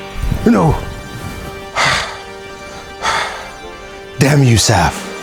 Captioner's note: panting heavily